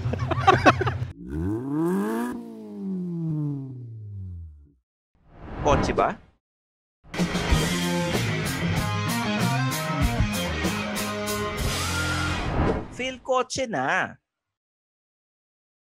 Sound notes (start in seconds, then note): 0.0 both laugh; 1.0 engine revs